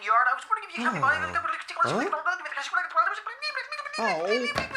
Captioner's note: tape Fast-Forwards